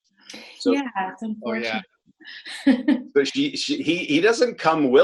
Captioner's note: laughs